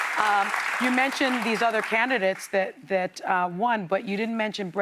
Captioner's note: applause